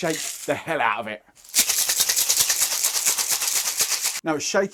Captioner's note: cocktail shaker with ice